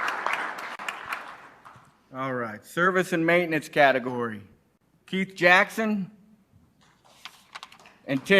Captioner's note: applause